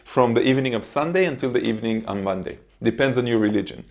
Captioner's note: hands smacking